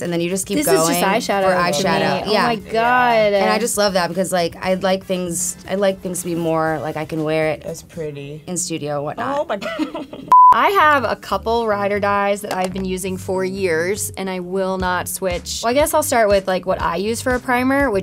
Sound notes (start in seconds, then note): 9.4 giggles; 10.3 beep